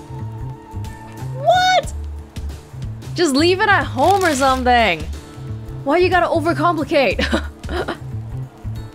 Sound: chuckles

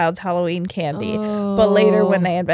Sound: groans

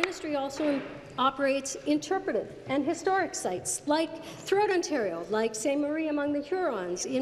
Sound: applause

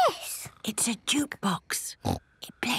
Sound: whispering

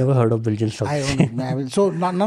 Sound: chuckles

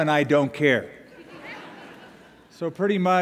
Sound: laughter

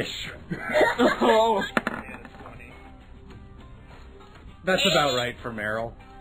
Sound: die rolls

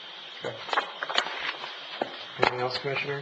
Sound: papers shuffling

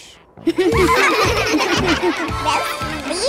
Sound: laughing

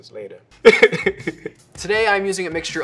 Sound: laughing

